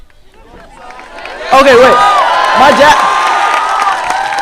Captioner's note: graduates applaud